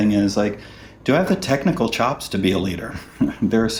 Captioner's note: chuckles